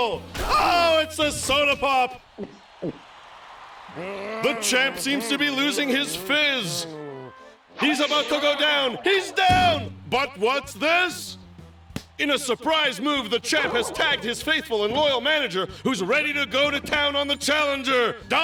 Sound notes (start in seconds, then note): 2.3 gulping; 3.1 cheers and applause